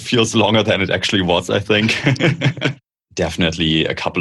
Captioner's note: laughter